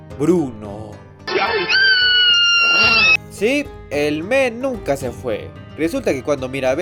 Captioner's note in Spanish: Gritos de perra loca